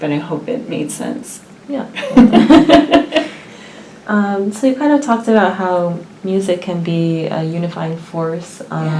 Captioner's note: laugh